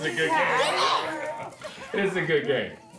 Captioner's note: family yelling and chatting